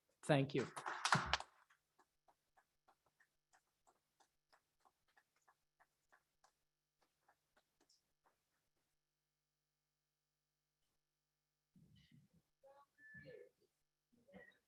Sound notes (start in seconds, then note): 0.5 audience appluades